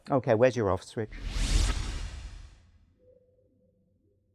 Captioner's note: swoosh